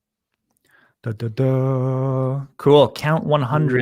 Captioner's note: hums musically